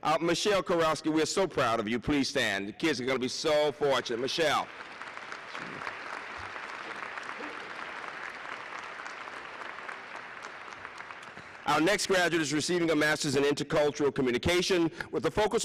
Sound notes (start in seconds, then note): 4.1 applause